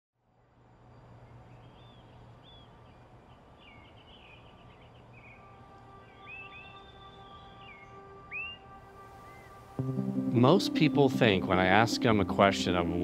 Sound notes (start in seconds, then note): 1.6 birds chirping; 4.8 gentle music; 6.3 birds chirping